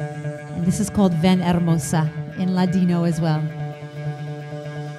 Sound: foreign language

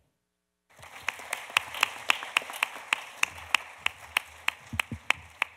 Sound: audience applauding

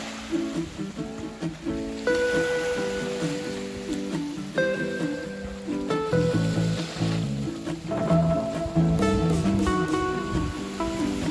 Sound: wave sound

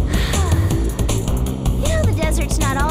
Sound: sighs

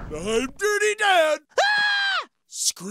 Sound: screaming

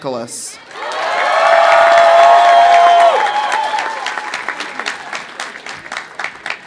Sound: audience cheering; audience applauding

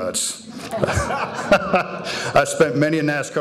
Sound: audience laughing

